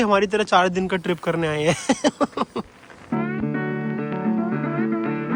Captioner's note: laughs